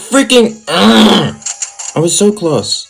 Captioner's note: eeerrrrrrrrrrrrrrrrrggghhhhhhhh